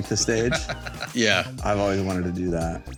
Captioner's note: laughs